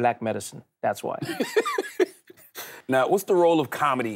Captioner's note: Charlamagne laughs